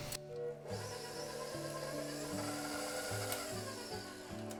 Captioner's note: machine whirring